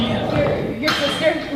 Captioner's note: door closes